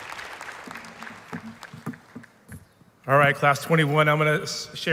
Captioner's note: applause